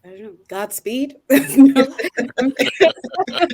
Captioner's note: laughing